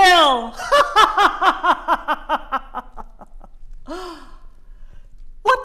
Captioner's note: boisterous laugh